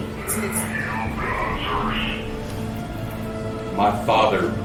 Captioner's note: device muttering